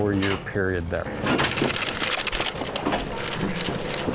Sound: bighorn sheep running

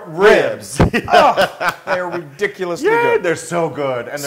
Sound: laugh

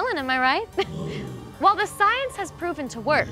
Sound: zombies growl

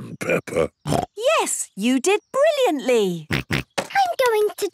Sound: snorts

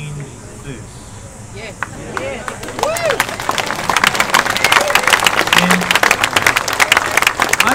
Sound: audience agreeing; applause

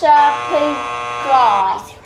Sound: buzzer buzzing

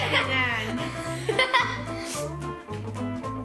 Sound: laughs

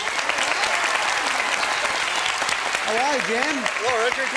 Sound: applause

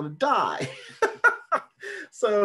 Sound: laughs

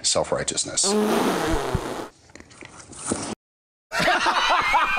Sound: blows a raspberry; page turns; laughter

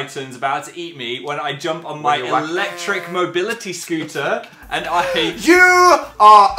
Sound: laughing

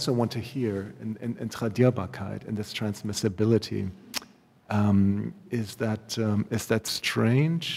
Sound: german

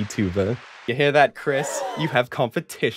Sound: audience gasps

